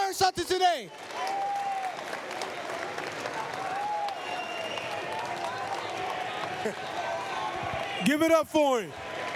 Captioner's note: applause, cheers